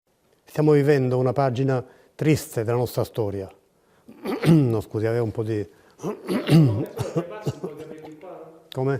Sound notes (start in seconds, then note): 6.0 clears throat; 6.0 coughs